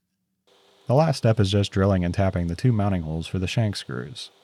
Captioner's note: none